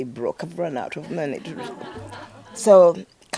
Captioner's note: audience laughing